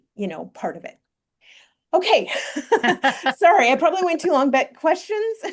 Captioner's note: both laugh